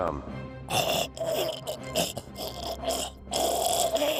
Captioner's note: choking